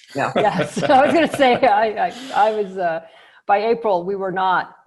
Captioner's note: both laugh